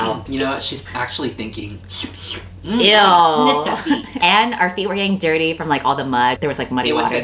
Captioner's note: slurp noises